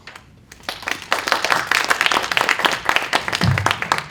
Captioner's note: applause